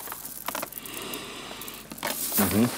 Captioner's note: deep breath